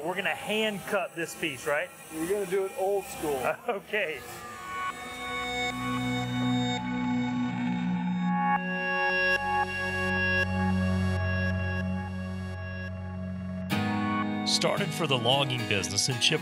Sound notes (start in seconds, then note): 3.5 laughs; 5.5 dramatic music